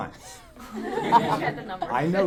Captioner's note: audience laughing